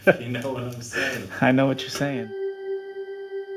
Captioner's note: laughing